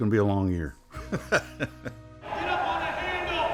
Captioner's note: laughs